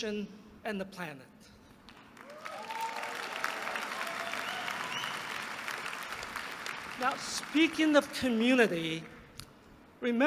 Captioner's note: applause